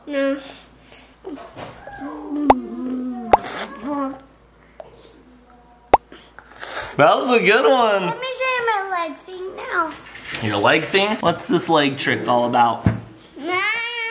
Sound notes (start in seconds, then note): 2.4 popping sound effect